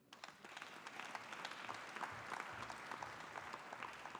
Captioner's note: audience applauding